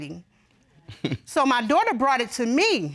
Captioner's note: laughs